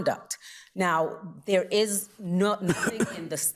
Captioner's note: justice coughing